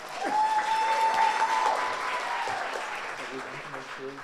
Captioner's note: audience applauds